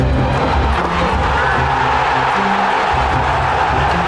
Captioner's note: crowd cheering